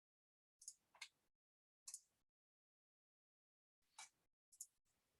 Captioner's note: mouse clicking continues